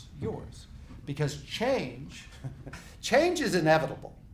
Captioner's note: laughs